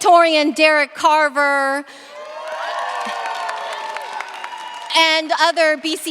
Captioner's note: cheers, applause